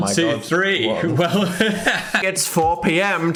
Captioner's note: Phil laughs